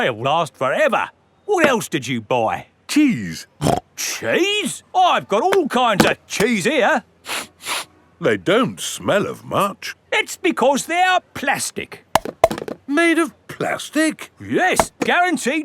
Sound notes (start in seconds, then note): 3.9 snorts; 7.3 sniffs; 12.2 clunks